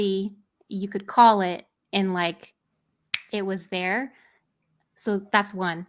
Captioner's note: finger snaps